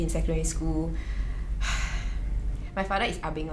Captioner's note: sighs